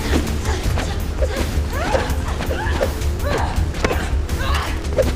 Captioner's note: both groaning